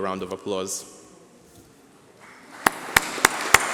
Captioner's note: applause